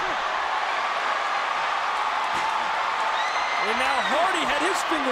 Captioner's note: crowd cheers